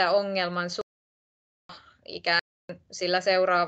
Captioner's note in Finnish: Ääniraita katkeaa